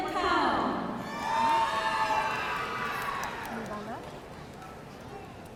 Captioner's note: audience cheering